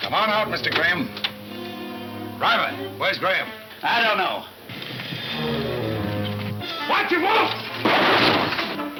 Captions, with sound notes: Driver, where's Graham? - I don't know. - Watch him Wolf! (gunshots)